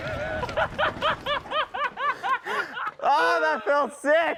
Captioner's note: laughing